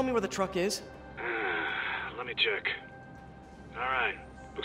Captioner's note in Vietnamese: Haizzz